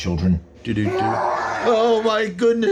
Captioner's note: ferocious werewolf growls